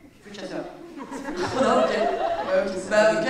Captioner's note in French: rires